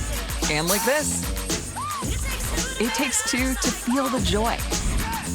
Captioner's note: countdown clock beeping